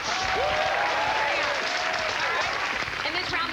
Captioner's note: cheers and applause